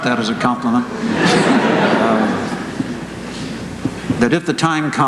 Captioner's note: laughter